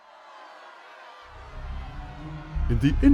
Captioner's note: senate Shouting